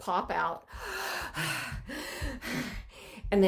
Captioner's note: breathing